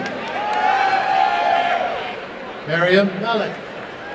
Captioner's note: applause and cheering